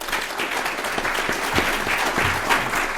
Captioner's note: applause